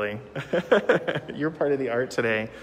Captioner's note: laughing